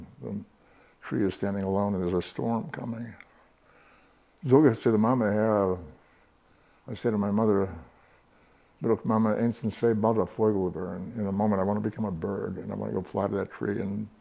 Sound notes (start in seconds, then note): 3.2 Yiddish